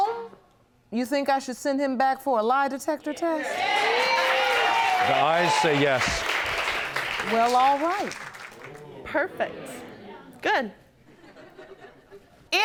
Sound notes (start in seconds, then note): 3.3 audience cheering; 10.6 scattered laughter